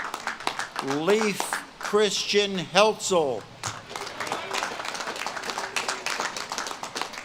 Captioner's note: audience claps and cheers